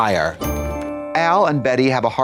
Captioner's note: bright chime